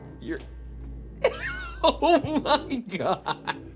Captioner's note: chuckles